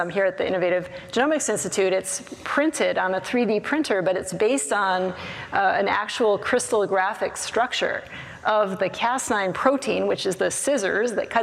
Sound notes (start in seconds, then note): none